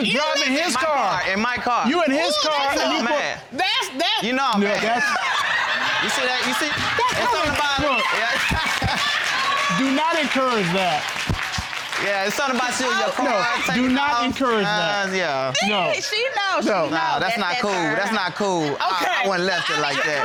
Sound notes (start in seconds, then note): 4.8 all laughing